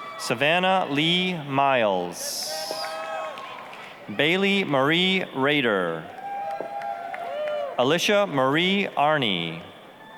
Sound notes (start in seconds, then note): 0.0 applause, cheering; 2.3 applause, cheering; 6.0 applause, cheering; 9.9 applause